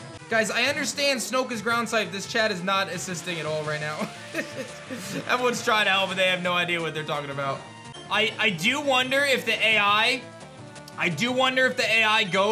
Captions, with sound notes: Guys, I understand Snoke is Ground-type. This chat is not assisting at all right now. (chuckles) Everyone's trying to help, but they don't have no idea what they're talking about. I do wonder if the AI... I do wonder if the AI goes